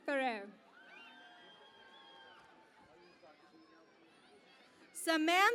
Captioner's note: cheering and Applause